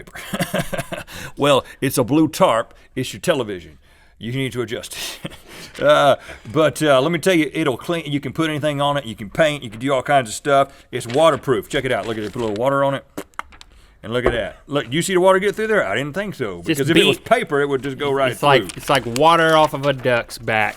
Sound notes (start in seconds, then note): 0.0 laughing; 5.0 laughing; 13.8 spits